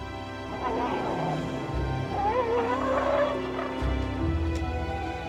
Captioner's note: grunting, trumpeting